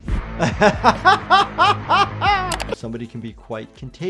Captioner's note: doctor laughs